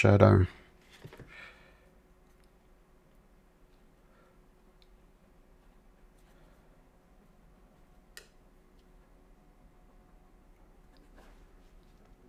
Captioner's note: silence